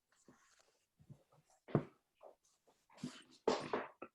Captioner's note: rustling